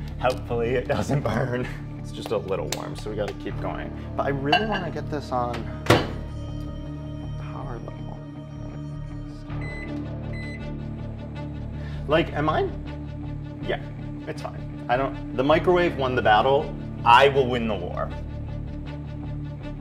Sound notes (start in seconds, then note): 5.8 microwave closes; 7.9 mumbling to himself